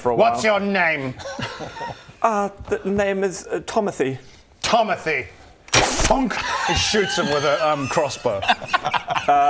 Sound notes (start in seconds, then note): 5.9 thunk; 8.8 unbothered laughter